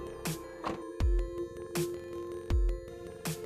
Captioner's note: thumping